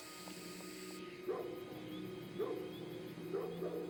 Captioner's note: dog barking